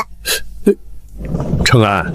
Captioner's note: cough